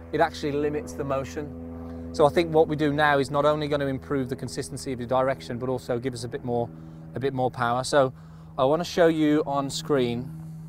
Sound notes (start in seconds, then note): none